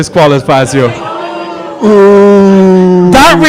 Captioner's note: audience booing